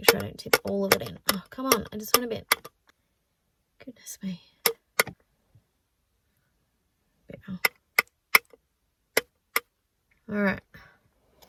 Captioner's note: tapping intensifies; tap tap; tap tap tap